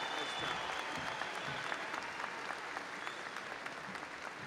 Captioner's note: audience applauding